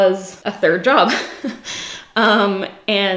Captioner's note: giggles